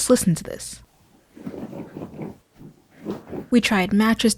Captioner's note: loud creaking